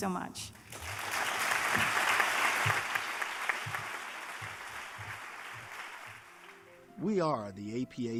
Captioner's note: applause